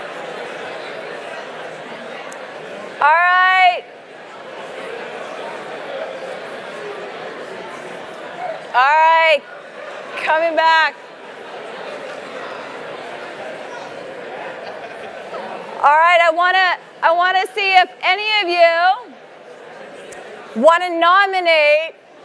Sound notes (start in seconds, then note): 14.2 laugh